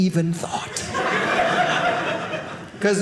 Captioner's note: audience laughing